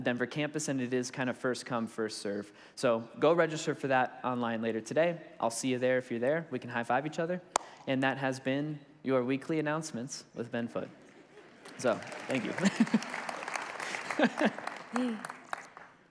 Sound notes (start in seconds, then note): 11.0 congregation laughs; 11.3 congregation applauds; 13.9 laughs